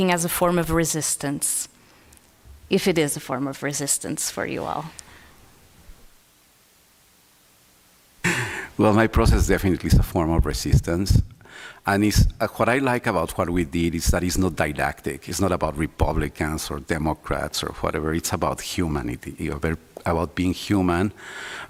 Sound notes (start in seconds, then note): 8.2 laughs